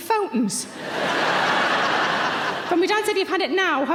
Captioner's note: audience laughs